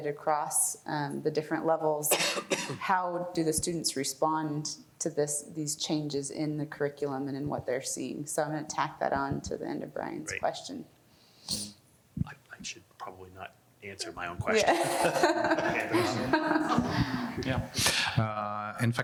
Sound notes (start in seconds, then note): 13.9 laughs; 16.0 panelists laughing